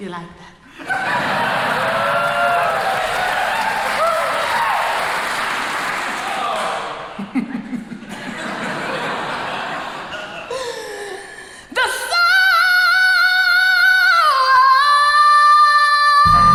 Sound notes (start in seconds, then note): 0.0 crowd laughs; 0.8 crowd cheering; 7.2 giggles; 8.7 crowd laughs